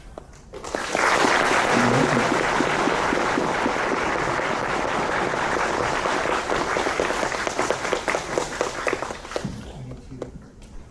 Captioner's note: applause